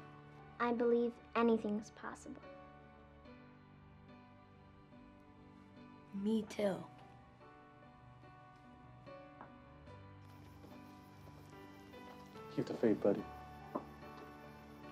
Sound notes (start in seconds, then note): none